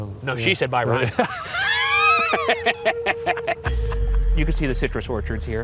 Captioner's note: both laughing